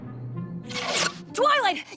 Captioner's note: screech!